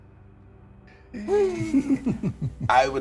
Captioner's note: players laughing